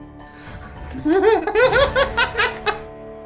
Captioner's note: giggles and cackles